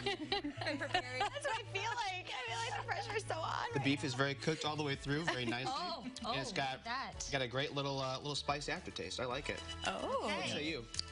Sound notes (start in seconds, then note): 5.0 laughter